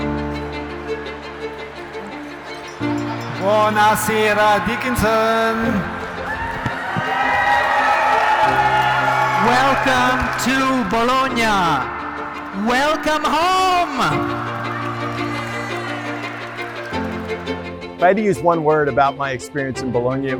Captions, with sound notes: (classical music) (speaking Italian) (audience cheering) - Welcome to Bologna! Welcome home! (classical music) - If I had to use one word about my experience in Bologna,